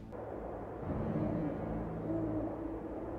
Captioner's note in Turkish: Baykuş sesi